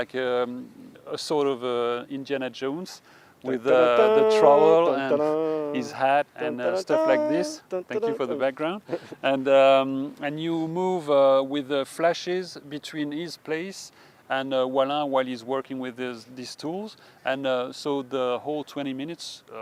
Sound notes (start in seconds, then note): 3.6 humming; 7.9 laughter